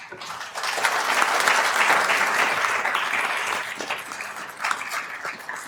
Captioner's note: attendees applauding